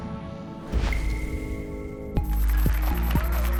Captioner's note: applause and cheers